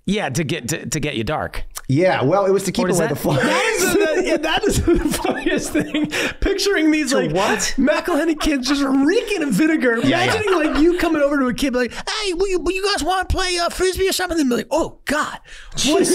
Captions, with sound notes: - Yeah, to get you dark. - Yeah, well it was to keep away the flies (laughing). - That is the funniest thing. Picturing these like- - To what? - McElhenney kids just wreaking of vinegar. Imagining you coming over to a kid like, hey, will you guys wanna play Frisbee or something. And they'd be like, oh God- - Jesus Christ.